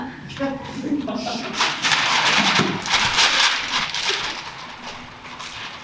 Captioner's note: papers rustling